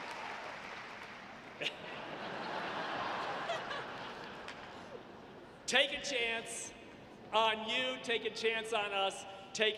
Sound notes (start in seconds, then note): 1.6 audience laughing